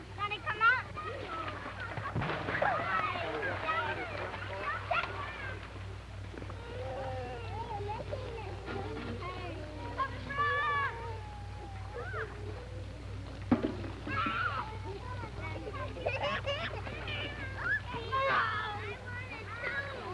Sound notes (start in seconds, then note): 1.2 water splashing; 16.0 playful chatter